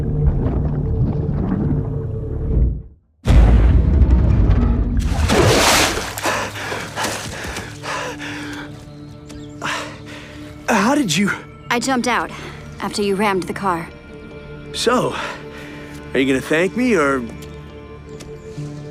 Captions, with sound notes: (Heavy Breathing) Ahhh... How did you...? I jumped out after you rammed the car. So... are you going to thank me or...?